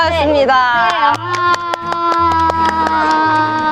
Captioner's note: clapping